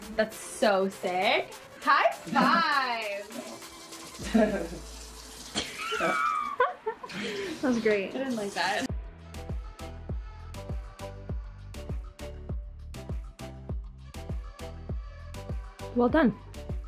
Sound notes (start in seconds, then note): 5.6 laughs; 9.9 pop music